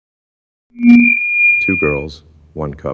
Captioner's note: microphone feedback